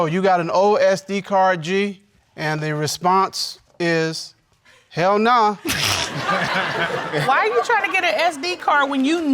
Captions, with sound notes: "Yo, you got an old SD card, G?" And the response is... "Hell nah." (ALL LAUGHING) Why are you trying to get a SD card